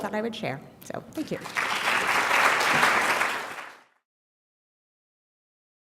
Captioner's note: applause